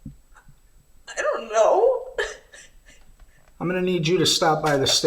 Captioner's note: crying